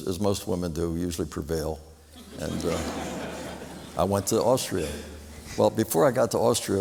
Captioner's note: laughter